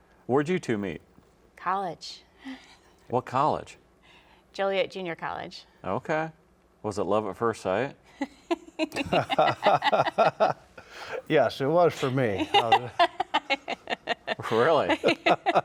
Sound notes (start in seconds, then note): 8.5 laugh; 15.4 laugh